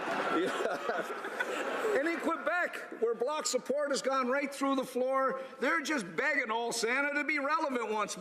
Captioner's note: laughter